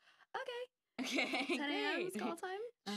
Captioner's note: laughing